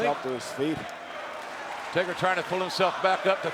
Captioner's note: audience chanting and clapping